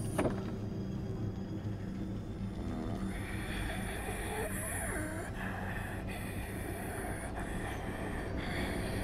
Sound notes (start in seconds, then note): 2.3 raspy breathing